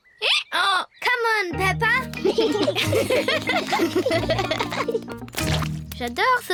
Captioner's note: brays; both giggle